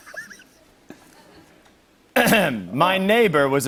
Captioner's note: clears throat